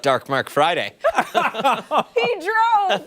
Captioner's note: laughter